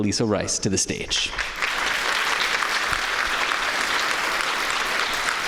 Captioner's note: applause